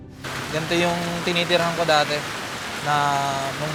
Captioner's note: rain pattering